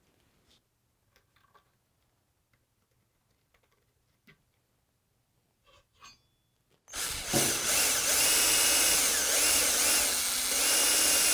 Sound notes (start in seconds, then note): 6.9 drill whirring